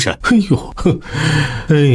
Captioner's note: sighs